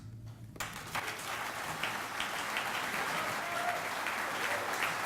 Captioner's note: audience applauding